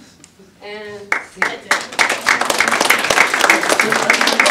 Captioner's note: audience applause